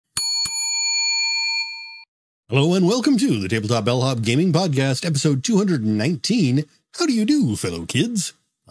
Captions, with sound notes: (bell dings) - Hello and welcome to the Tabletop Bellhop gaming podcast, episode 219. How do you do fellow kids?